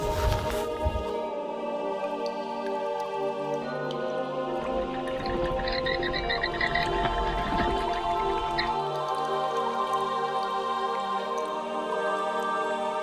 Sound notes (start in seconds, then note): 0.3 mysterious music; 2.4 water dripping; 4.7 bats squeaking; 9.2 mysterious music continues